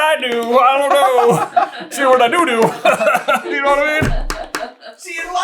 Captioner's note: laughter